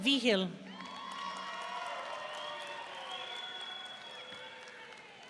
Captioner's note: audience cheering